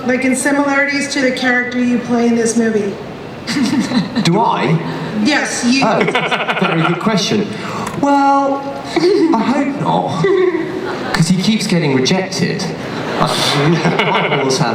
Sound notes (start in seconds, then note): 4.8 voiceover; 5.9 laughter; 12.8 laughter